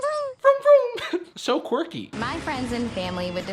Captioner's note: laughing